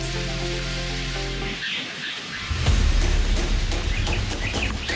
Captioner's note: birds chirping